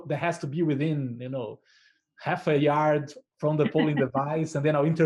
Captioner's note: laughter